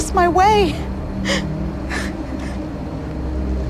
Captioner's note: sobbing